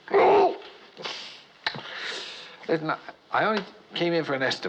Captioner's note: groans